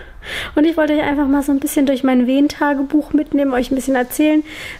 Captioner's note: none